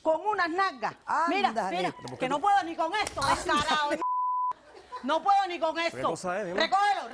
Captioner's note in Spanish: Bip